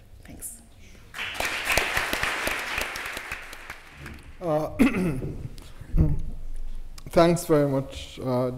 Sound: applause

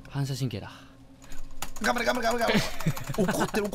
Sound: laughs

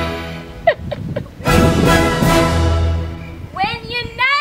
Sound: both laugh

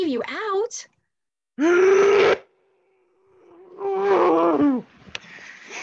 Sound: bear grumbling

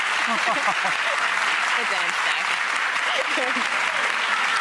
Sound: applause

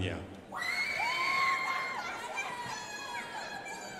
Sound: crowd applauding

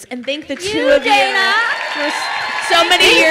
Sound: crowd cheers and applauds

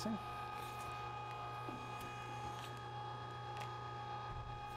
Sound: machine roaring

